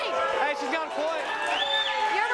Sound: audience cheering

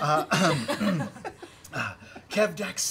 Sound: laughing

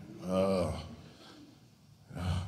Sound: groans

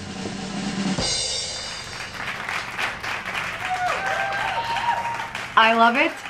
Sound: drum roll rattles; crowd applauds and cheers

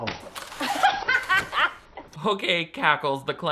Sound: laughs

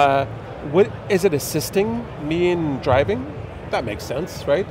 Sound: none

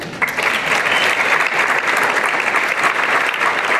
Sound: applause

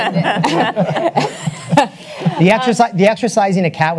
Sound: panelists laugh

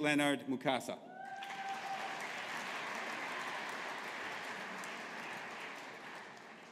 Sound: audience applauding

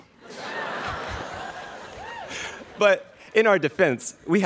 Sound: students laughing

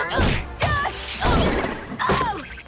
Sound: grunting

